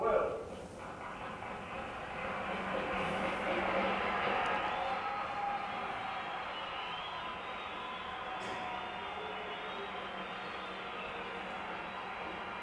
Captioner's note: audience applause